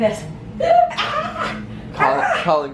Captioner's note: gasping